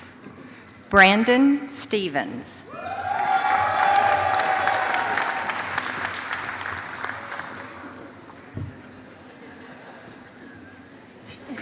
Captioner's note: applause